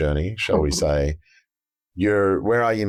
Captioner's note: chuckles